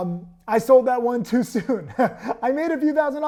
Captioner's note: laughs